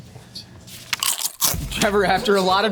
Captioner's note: crunching